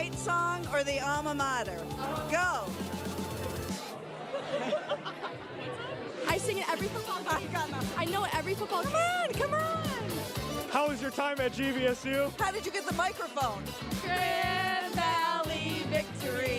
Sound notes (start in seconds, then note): 7.1 laughter